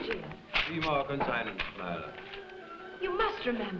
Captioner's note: speaking foreign language